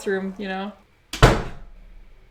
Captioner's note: door slams suddenly